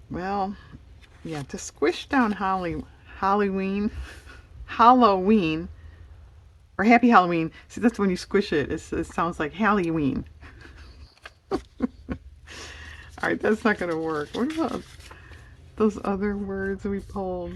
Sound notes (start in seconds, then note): 3.5 laughs; 10.4 laughs